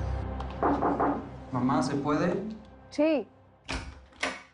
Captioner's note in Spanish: Toques en la puerta